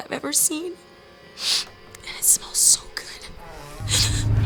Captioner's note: sniffs; creaking